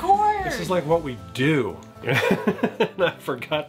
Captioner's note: laughs